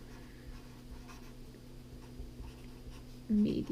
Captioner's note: pen scratching